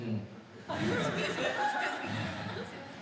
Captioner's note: speaking in foreign language; laughing